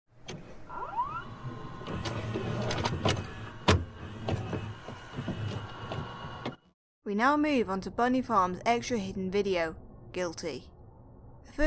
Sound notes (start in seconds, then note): 0.2 VHS noises